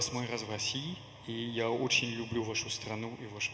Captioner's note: in Russian